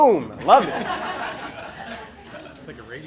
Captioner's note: laughing